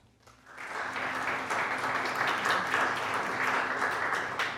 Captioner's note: audience applauding